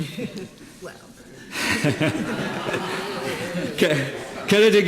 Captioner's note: laughter